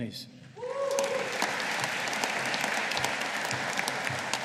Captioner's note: audience applauding